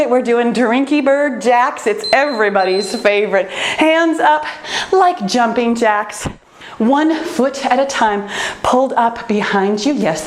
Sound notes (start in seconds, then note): 1.9 timer beeps